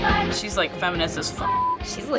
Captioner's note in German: biepsen